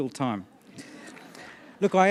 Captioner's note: laughter